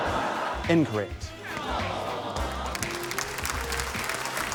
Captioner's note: laughter; applause; audience groan